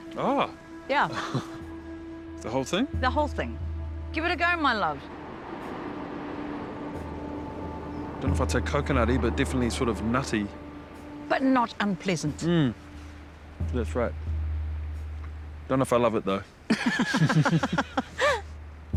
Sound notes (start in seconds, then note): 1.1 chuckles; 4.6 wind, waves roar; 16.7 both chuckle